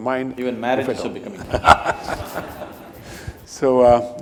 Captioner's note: laughter